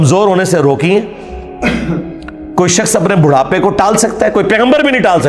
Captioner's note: clears throat